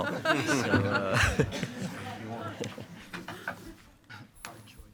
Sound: board members chuckle

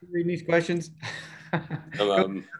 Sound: chuckles

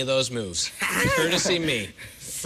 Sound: laughs

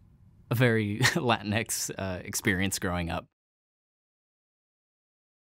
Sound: laughter

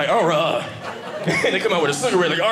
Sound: audience laughing

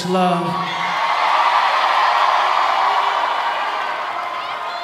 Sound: audience applauding

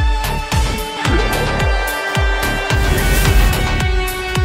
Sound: loud scream

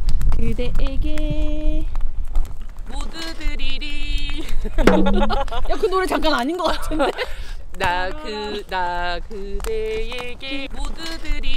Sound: laughs

